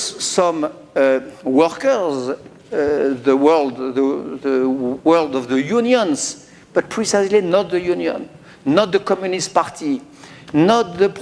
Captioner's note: speaking french